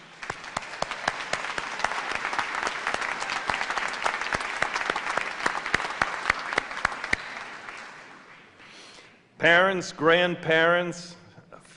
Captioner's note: applause